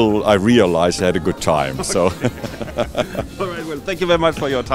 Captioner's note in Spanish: Risas